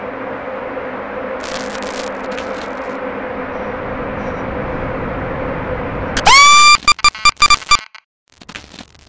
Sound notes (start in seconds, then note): 1.4 distorted static; 6.2 scream